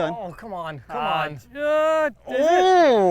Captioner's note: groans